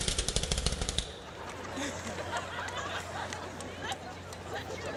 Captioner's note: laughter